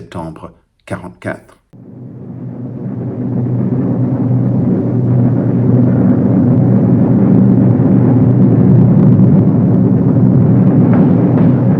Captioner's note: airplane engine noise